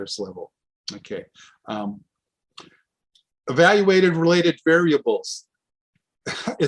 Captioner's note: scoffs